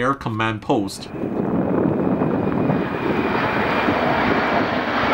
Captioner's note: aeroplane engine roaring